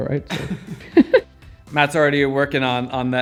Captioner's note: laughs